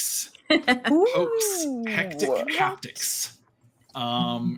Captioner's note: chuckling